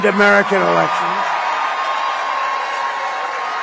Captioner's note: applause